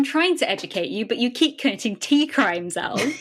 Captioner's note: laughing